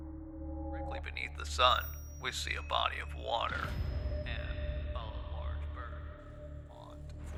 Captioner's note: fading recording